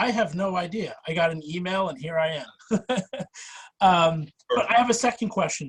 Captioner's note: laughing